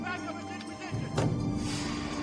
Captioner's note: mountie yelling orders